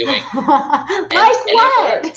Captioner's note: laughing